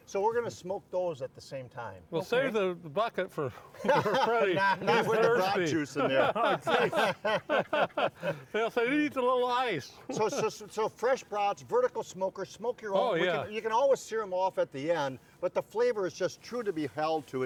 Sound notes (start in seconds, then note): 3.8 laughs